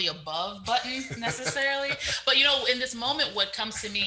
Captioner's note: laughs